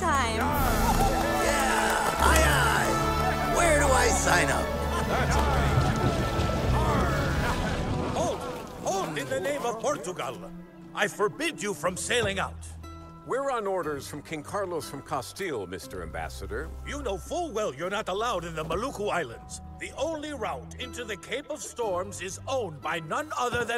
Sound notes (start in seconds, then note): 0.2 they cheer; 5.2 indistinct chatter